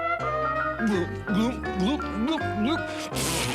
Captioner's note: gulp gulp gulp gulp